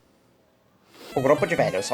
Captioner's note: inhales